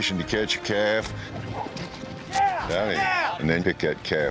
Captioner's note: hoof beats